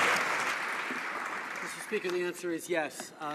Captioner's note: some Applause